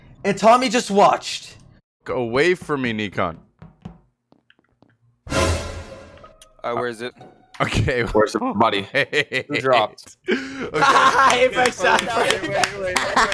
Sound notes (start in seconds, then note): 5.2 thriller music; 8.8 laughs